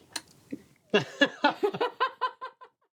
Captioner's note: laughter